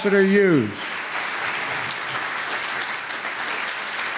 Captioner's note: applause